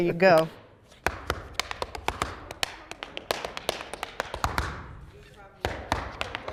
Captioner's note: tapping